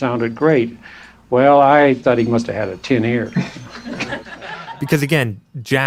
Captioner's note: laughter